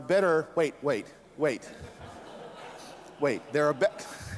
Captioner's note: laughter